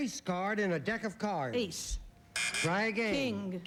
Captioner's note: buzz buzz